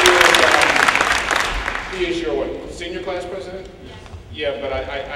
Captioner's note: applause